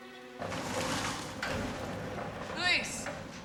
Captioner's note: clattering